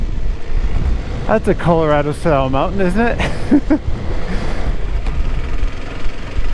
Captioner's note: laughs